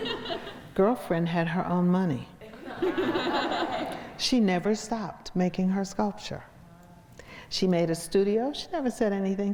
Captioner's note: crowd laughs